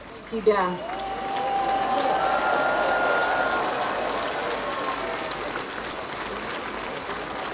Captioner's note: applause